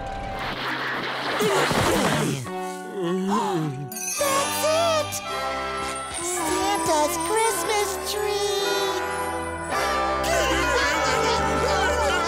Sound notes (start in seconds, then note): 0.1 jostling, grunting; 2.2 gasping; 2.2 moaning; 7.7 joyous music playing; 9.8 laughing